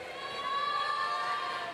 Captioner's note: none